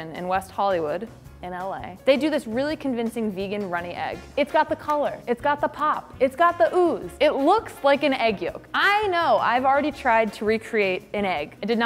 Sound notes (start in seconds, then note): none